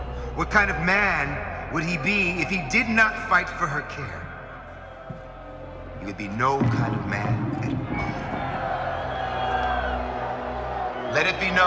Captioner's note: cheering